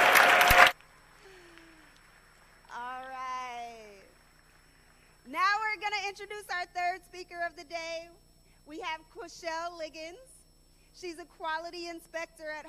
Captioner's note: applause